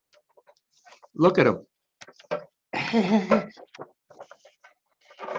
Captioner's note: laughter